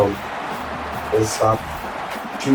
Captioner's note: crowd Noises